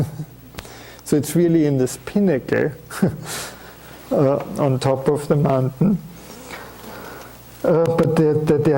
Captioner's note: chuckling; chuckles